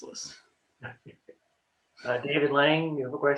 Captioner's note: laughs